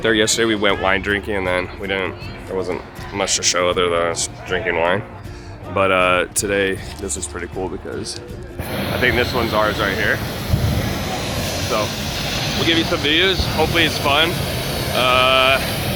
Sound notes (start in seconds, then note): 10.2 hot air balloon firing